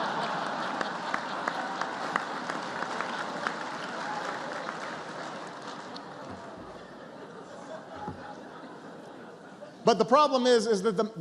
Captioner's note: laughter and applause